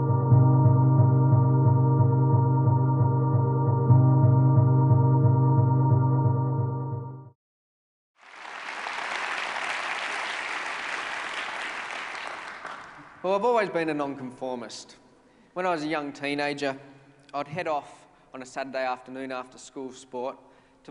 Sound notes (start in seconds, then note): 0.0 intro music; 8.1 applause